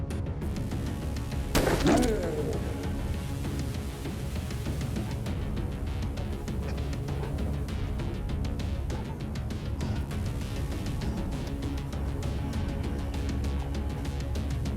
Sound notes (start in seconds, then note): 1.5 gun firing; 1.6 creature grunting; 4.4 mellow upbeat music